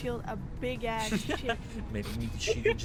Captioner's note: laughs